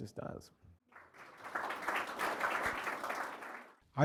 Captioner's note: applause